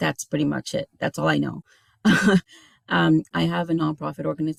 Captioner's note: chuckles